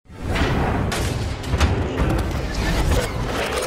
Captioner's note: metal clanks